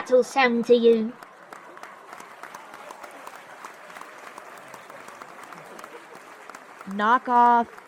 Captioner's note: audience laughter and applause